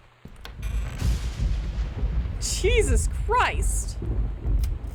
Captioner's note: loud, Extended Thunder